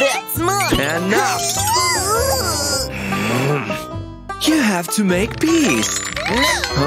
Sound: groans

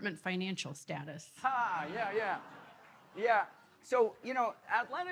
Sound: audience laughing

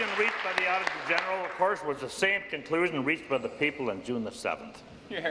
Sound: applause

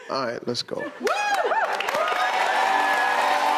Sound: audience cheering and clapping; triumphant music

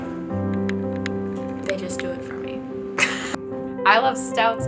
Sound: laughs

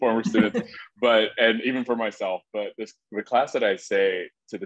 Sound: laugh

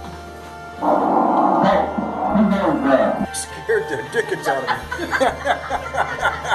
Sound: deep, scary, voice says; laughing; laughter

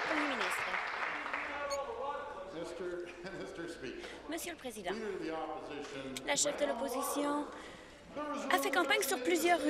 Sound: applause

